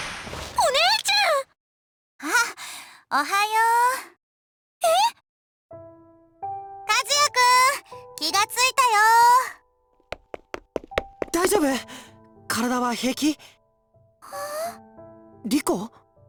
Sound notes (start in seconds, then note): 14.7 breath